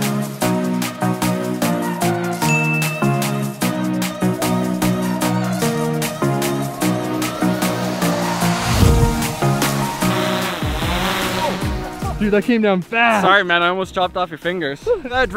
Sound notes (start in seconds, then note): 2.5 dinging; 10.6 whirring